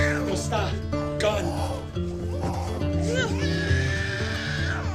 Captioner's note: screaming